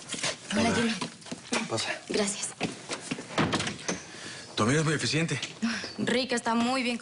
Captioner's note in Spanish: Ruido en la puerta